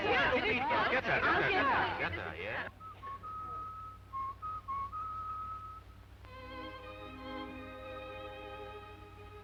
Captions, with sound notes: Who's Lupita? Get her, get her, get her, yeah. (whistling) (orchestral music)